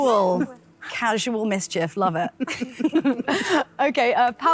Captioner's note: laughs